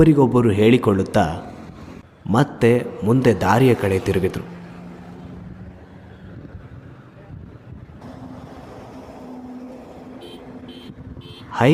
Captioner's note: vehicles approaching